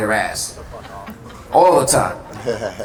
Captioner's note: audience laughter